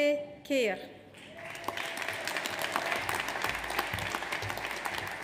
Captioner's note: audience applauds